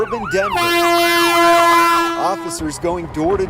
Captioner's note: ambulance wailing